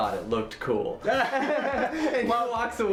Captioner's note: both laugh